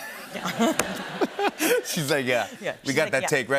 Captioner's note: laughter